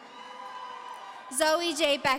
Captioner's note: audience cheering